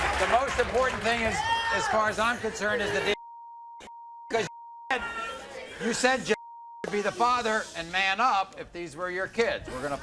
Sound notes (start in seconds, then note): 3.6 beep